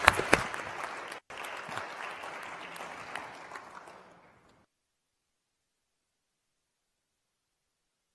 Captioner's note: applause